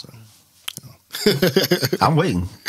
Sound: laughing

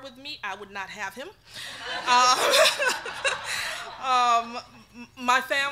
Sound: audience laughing

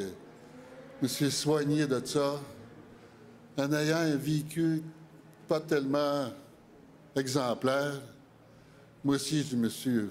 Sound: speaking French

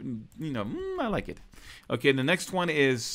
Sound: hums

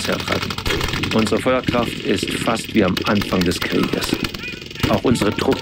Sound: battle noise

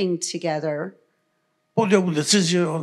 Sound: foreign language

